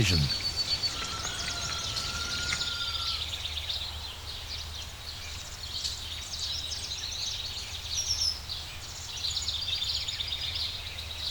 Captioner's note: birds chirping